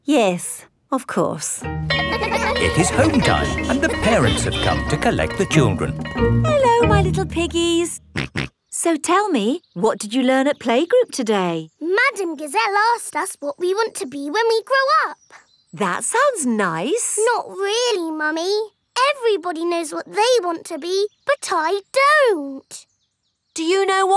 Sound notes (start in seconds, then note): 1.8 school bell rings; 8.6 snorts